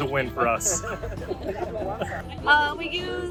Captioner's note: laughing